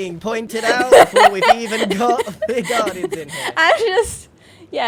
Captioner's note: laughs